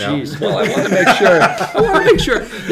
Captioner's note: laughing